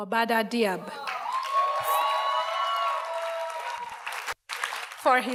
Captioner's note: audience cheers and applauds